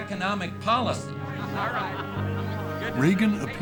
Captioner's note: talking and laughing